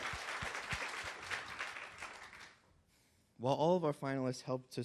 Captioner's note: applause